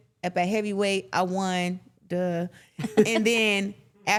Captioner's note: chuckling